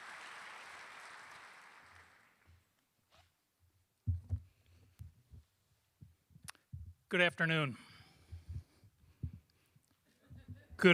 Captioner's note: applause